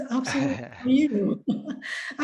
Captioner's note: laughs